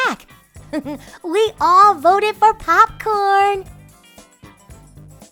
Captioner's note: giggles; upbeat music continues